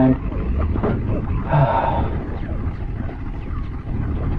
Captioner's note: sigh